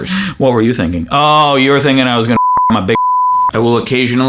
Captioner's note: beep